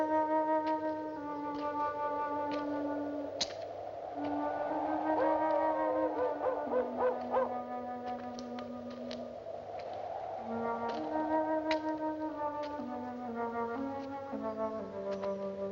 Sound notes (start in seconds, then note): 6.6 dog Howls In Distance